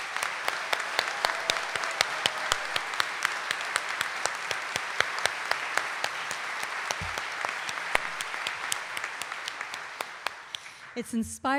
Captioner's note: audience cheering and applauding